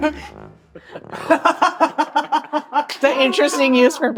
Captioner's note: laughing